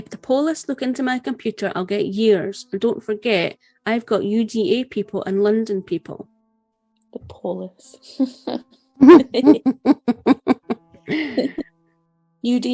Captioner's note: laughter